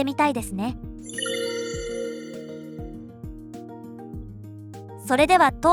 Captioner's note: keystroke Sounds